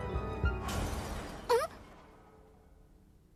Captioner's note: glass shattering